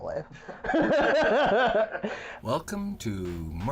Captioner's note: laughter